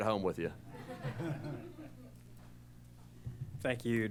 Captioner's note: laughter